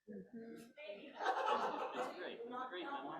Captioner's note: laughter